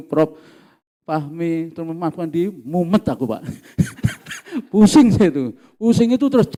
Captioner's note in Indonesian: tertawa